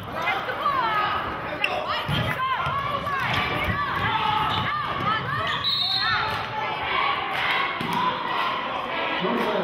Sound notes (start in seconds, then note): 5.5 whistling